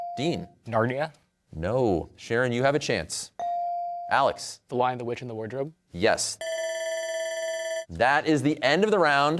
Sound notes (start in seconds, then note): 6.4 bell ringing